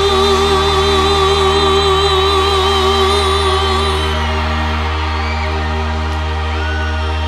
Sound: ovacion

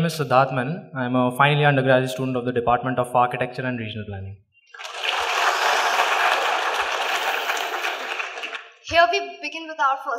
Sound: applause

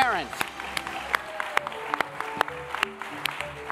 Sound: applause

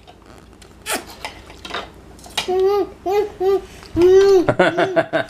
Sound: sucking and mumbling; laughing

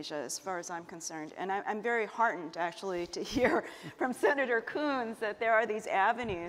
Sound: chuckle

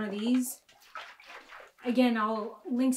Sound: liquid splashing

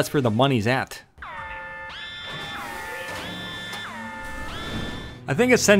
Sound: centrifuge warning sound effect

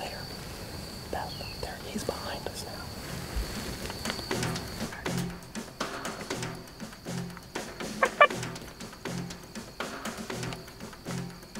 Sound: whispering

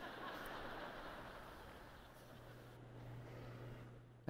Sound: laughter

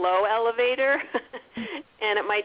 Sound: laughs

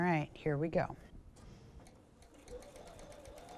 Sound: sewing Machine

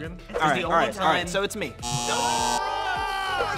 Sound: buzzing

